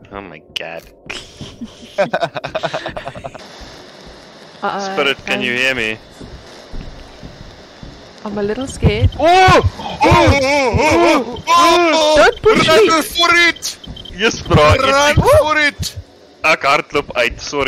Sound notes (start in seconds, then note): 1.1 laughter; 1.1 snickering; 9.2 startled man yell; 13.7 overlapping scared men voices